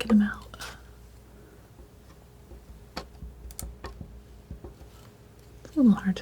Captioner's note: tapping